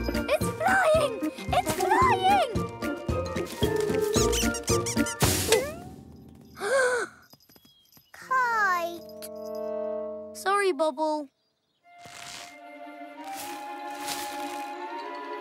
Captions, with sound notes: - It's flying! It's flying! (gasps) - Kite. - Sorry, Bobble. (dramatic music)